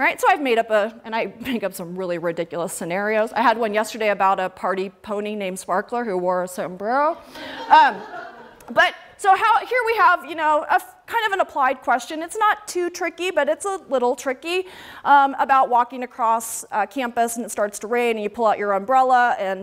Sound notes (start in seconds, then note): 7.3 laughter